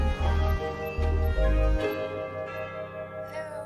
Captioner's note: doorbell rings